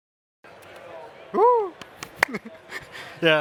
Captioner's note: clapping